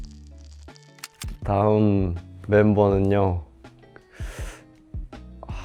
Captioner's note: inhales